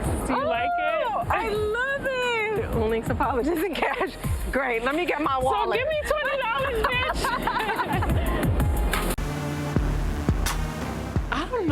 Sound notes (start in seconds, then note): 4.3 laughs; 6.1 all laugh; 8.9 upbeat music plays